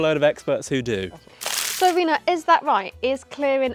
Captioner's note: screen rustling